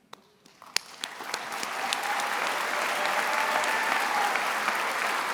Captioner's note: attendees applauding